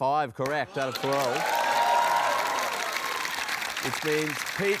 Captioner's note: cheering, applause